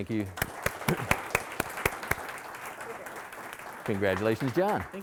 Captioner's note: audience applauding